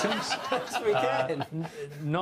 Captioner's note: laughs